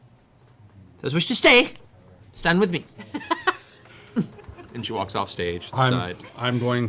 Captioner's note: harrumphs